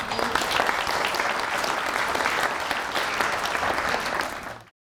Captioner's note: audience applauds